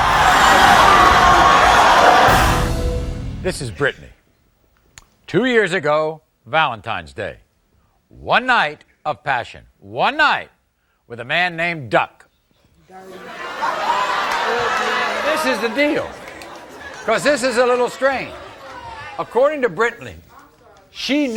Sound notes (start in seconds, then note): 0.0 audience yelling; 0.0 audience cheering; 13.0 audience laughing; 13.0 audience cheering